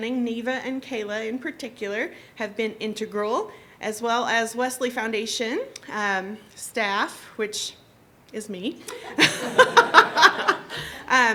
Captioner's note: laughter